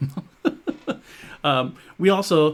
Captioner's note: laughs